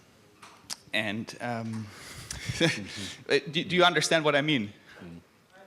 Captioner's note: chuckles